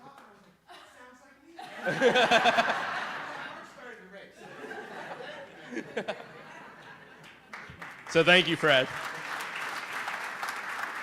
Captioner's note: laughter